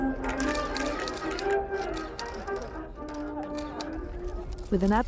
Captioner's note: camera shutters clicking